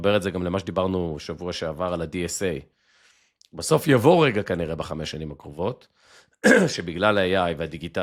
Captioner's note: clears throat